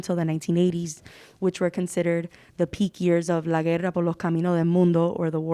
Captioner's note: speaking Spanish